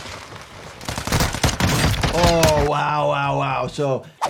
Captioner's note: bullets popping